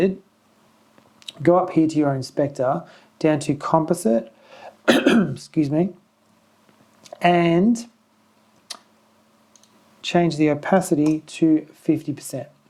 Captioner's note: coughs